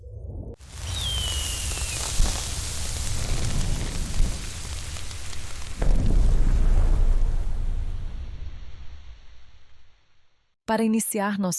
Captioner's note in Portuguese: ruído eletrônico